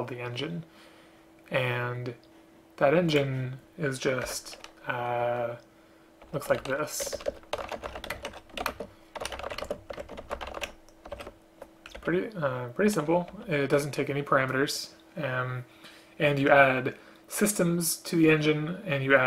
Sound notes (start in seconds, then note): 9.1 typing